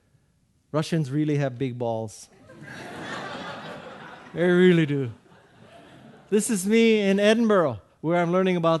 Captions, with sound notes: Russians really have big balls. (audience laughing) They really do. This is me in Edinburgh where I'm learning about